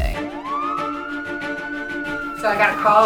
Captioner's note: dramatic music; sirens blaring